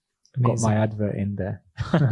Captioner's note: laughs